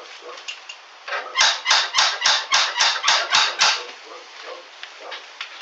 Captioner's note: door knocker squeaking